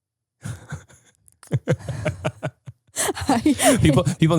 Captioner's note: laughing